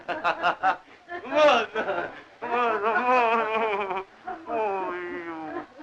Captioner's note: laughing; chuckling